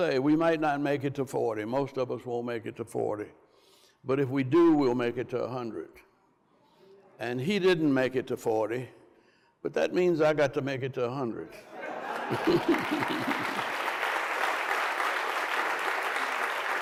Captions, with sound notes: "We might not make it to 40. "Most of us won't make it to 40. "But if we do, we'll make it to 100." And he didn't make it to 40. But that means I got to make it to 100. (Andrew and crowd laughs) (applause)